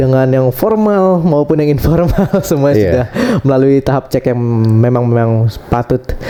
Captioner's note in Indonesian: tertawa